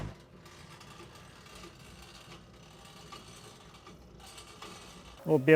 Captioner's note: sawmill grinding back